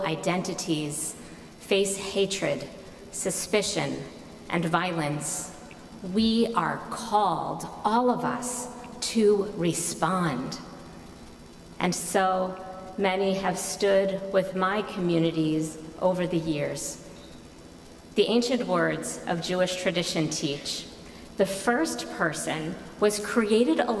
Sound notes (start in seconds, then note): none